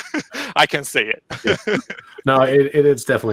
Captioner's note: laughs